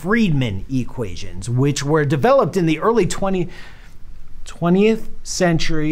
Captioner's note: inhales audibly